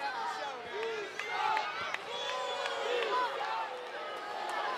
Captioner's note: applause